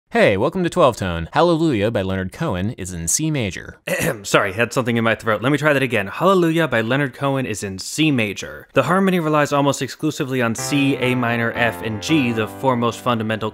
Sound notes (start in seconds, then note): 3.8 ahem